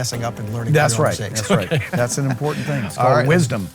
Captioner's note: laughing